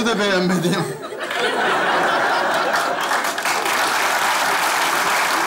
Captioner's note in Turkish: Kahkaha ve alkış sesleri